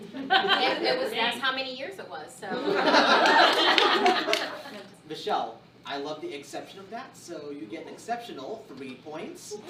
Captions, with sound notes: (laughter) - And that's how many years it was, so. (laughter) - Michelle, I love the "eggsception" of that, so you get an eggceptional three points.